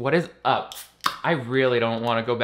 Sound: can tab pops

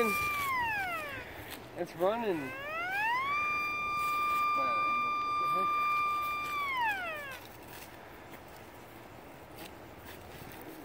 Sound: machine drilling into the ground

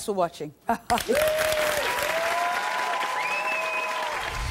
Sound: audience applause

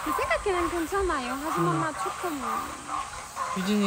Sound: scared

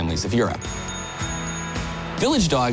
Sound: bell dinging

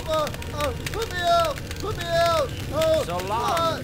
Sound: moaning

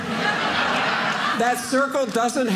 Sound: audience laughing

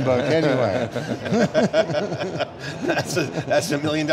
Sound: laughing

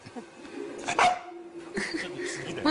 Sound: soft bark

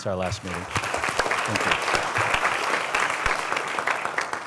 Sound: applause

